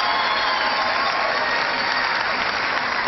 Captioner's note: cheering